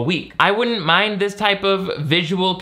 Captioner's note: none